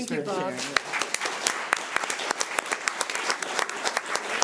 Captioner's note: everyone applauding